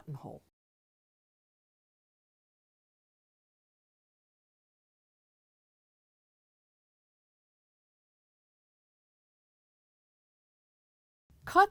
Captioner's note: no Sound Present